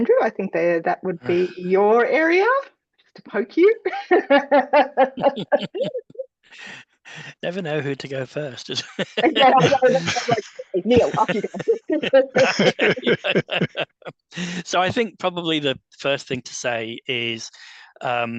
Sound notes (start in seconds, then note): 5.3 laughter